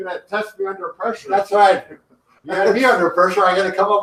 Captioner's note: laughs